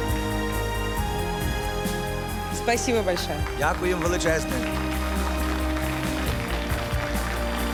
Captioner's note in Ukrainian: оплески